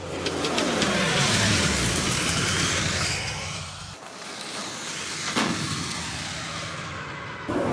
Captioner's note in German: Flugzeugstartgeräusch